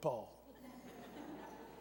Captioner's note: laughter